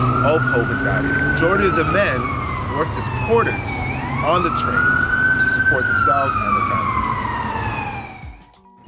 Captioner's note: 🚨Ambulance siren🚨